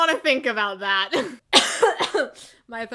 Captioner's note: cough cough